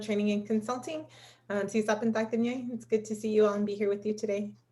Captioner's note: non-english speech